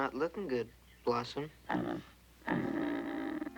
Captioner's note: grunting